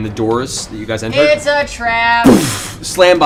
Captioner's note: singsong